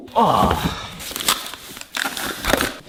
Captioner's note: package rustling